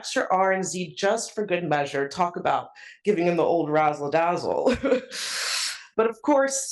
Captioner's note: laugh